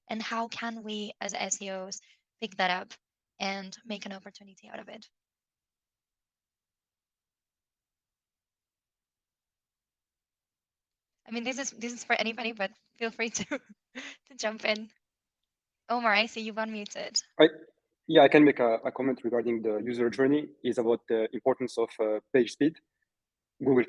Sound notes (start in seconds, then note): 14.9 chuckling